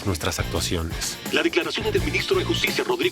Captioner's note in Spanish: Voz en la TV